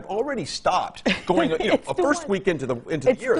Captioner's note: laughing